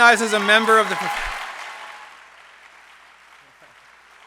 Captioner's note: applause